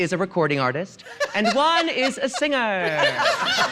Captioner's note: RuPaul laughs; audience laughing